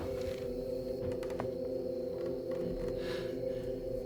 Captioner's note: floor boards creaking